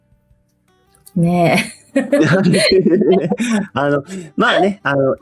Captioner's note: laughs